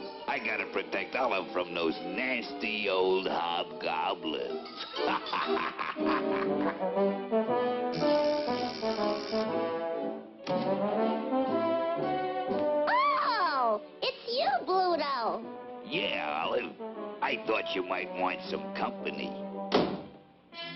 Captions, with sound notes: I gotta protect Olive from those nasty old hobgoblins. [laughs] [doorbell rings] Oh! It's you, Bluto. Yeah Olive, I thought you might want some company.